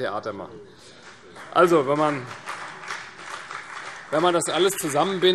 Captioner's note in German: Beifall CDU und BÜNDNIS 90/DIE GRÜNEN